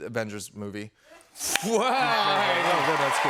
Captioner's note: cheers and applause